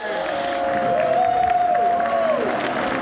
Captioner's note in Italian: Applauso